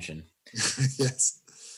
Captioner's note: laughs